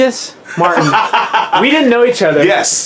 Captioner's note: laughing